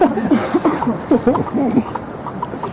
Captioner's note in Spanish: risas